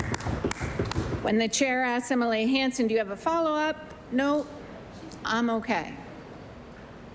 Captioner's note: applause